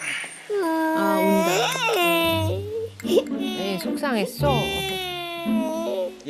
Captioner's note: waahh!